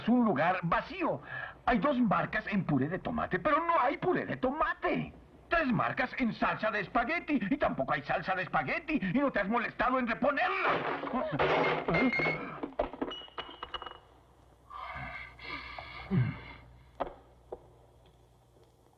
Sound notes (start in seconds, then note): 11.4 jars Clinking; 14.5 grunts